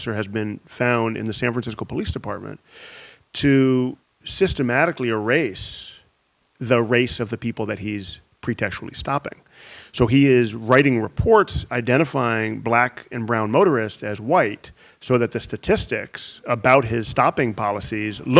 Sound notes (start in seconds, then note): none